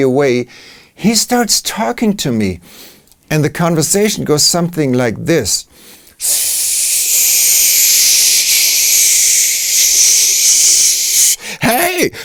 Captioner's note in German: shshshsh